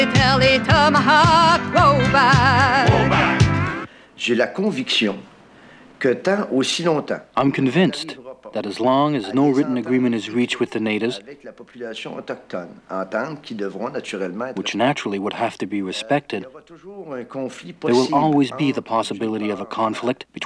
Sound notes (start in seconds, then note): 2.9 men shouting in foreign language; 4.3 speaking in foreign language